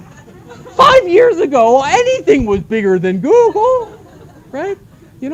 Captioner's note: laughter; laughter